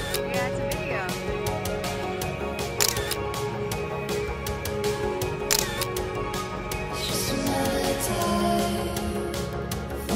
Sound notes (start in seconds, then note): 2.1 soft upbeat music; 2.7 camera clicking